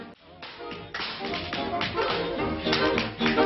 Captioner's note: tapping